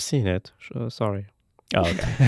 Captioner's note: laughing